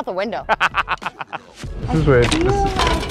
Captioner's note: laughs